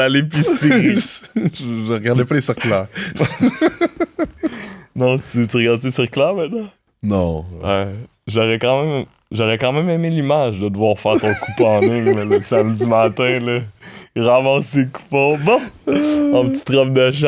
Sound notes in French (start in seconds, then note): 2.6 rires